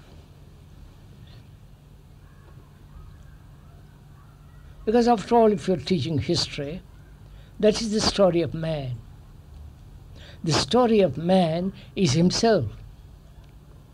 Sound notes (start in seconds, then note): 0.7 laughs